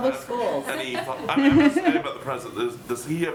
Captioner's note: laughter